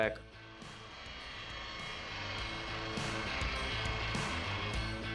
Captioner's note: saw whirring